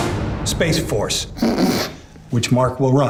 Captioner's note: laughs